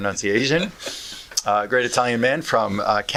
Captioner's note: laughter